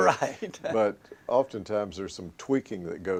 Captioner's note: laughter